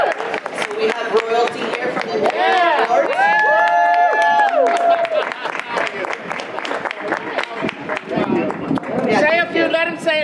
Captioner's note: audience applause